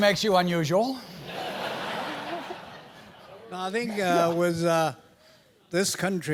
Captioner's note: laugh